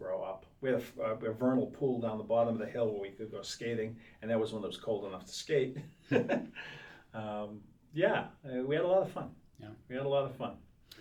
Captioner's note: laughs